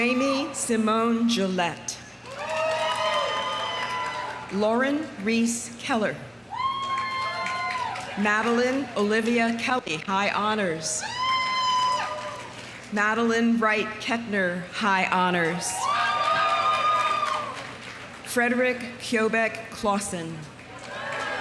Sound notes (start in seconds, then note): 2.2 audience applauding; 2.2 audience cheering; 6.5 audience cheering; 6.6 audience applauding; 11.0 audience cheering; 11.6 audience applauding; 15.6 audience cheering; 15.8 audience applauding